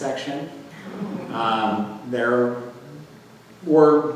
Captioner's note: audience chuckles